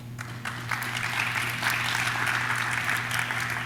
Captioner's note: audience claps